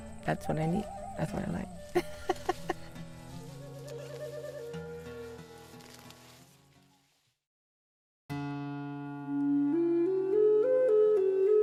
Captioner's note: laughs